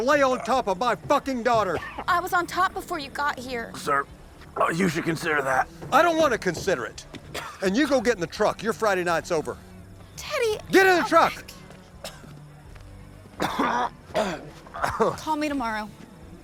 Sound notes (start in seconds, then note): 4.6 choking; 13.4 coughing, gagging